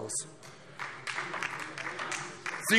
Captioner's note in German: Beifall DIE LINKE